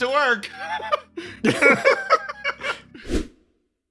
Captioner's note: laughs